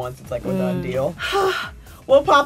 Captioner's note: sighs